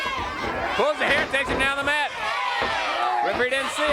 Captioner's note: crowd chatter